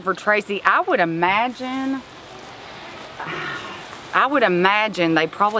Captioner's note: scoffs